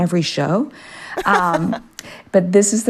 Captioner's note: laughter